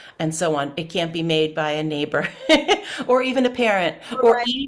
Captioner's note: laughs